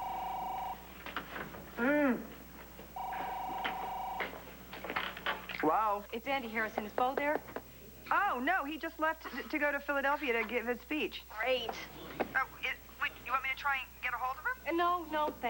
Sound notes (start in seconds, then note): 1.0 telephone rings